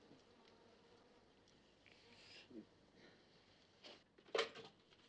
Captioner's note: speaks in turkish